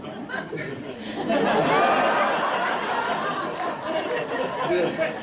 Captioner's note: audience laughs